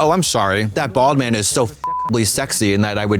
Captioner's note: beep